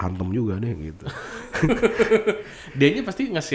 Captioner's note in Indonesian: ketawa